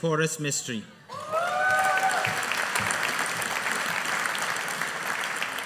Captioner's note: audience applauding